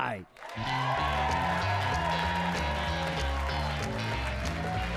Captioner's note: audience cheering